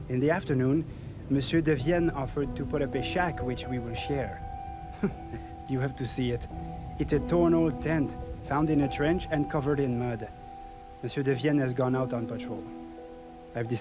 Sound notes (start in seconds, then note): 4.9 laughs